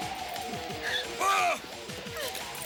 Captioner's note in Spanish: Graham grita